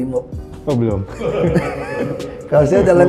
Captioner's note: laughing